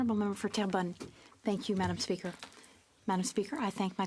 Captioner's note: speaking French